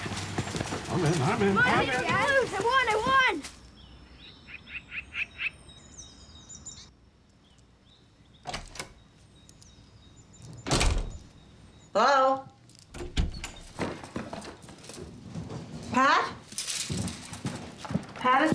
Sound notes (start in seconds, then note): 6.5 door opens; 10.5 door closes; 12.8 door opens; 16.9 rustling